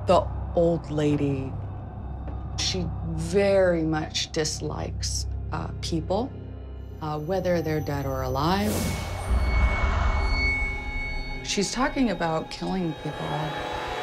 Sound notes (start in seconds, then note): 8.6 whoosh